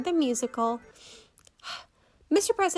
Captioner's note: deep breath